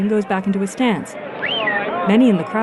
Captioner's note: crowd noise; whistling